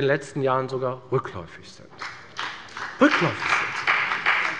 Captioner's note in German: Beifall bei der FDP